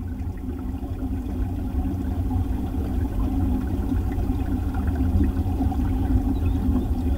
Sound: the sound of trickling water from the depths

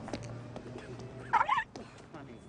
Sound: bark

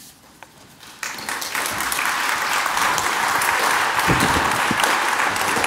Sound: audience applauds

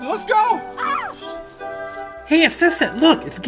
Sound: girl screams

